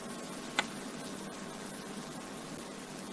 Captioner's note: click